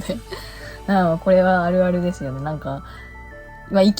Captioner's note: laughs